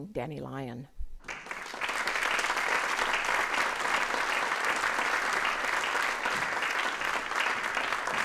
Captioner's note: applause